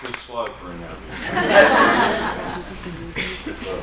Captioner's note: laughter